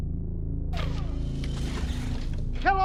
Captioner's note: distorted ominous music; Kellogg's arm whirring